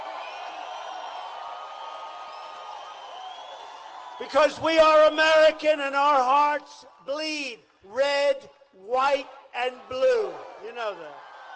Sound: applause

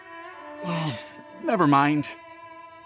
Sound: sigh

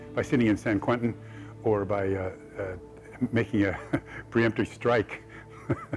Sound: chuckles

